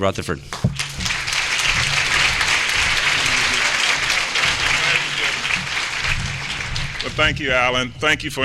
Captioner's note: applause